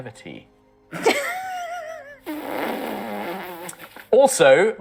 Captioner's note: the crew laughs in a pained manner